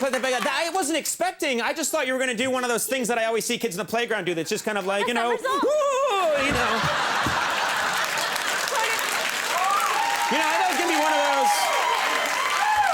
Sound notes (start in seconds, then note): 5.5 Conan squealing; 6.2 all laugh; 6.4 audience clap